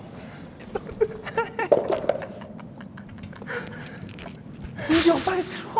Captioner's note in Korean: ㅎㅎㅎㅎ